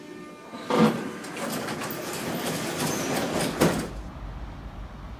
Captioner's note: opening doors